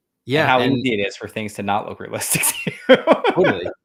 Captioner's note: laughs